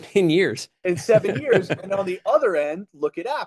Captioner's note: laughs